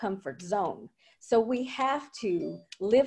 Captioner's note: computer chimes